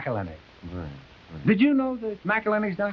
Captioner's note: Sanderson muttering